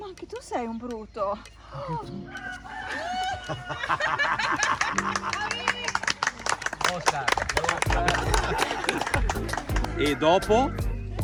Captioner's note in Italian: Applauso